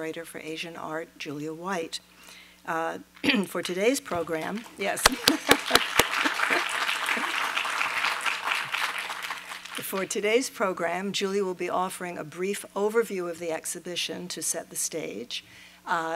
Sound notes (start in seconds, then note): 5.0 applause